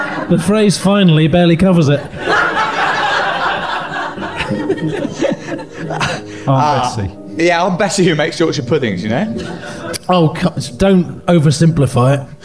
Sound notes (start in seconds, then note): 3.8 giggling